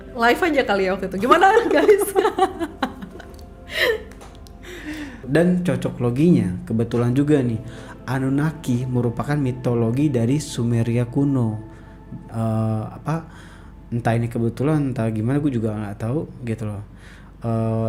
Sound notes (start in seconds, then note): 1.5 laugh